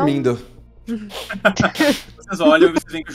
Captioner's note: laughing